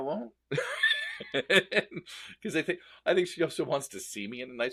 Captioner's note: laughs